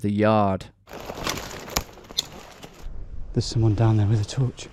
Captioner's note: footsteps crunching